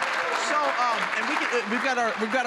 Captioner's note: applause